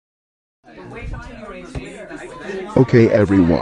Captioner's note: people Chattering